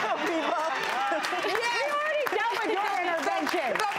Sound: audience laughing

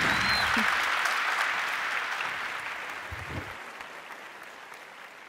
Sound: audience clapping and cheering

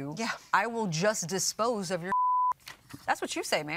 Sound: beeps

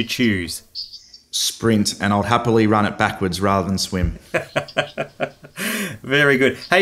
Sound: laughing

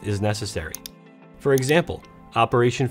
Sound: mouse clicking

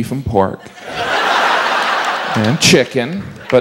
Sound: crowd laughing

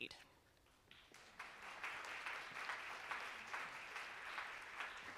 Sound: audience applauding

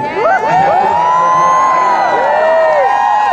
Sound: audience cheer

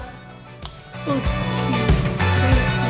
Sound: hand slapping; uplifting music

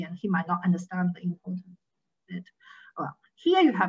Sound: faintly speaking

